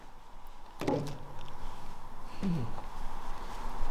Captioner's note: cart thumps